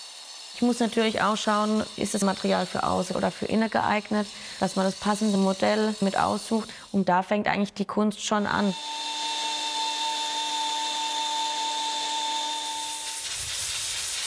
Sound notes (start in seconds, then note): 10.0 machine whirring